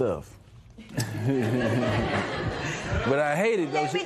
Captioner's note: laughter